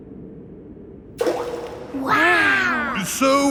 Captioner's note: rock plops